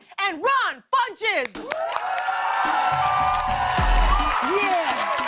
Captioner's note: cheers and applause